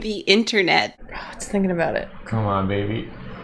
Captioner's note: sigh